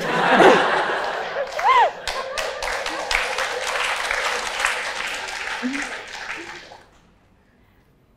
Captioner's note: applause